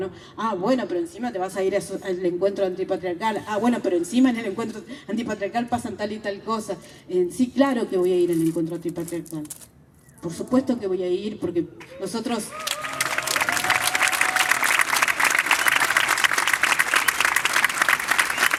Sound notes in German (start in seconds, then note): 12.4 Applaus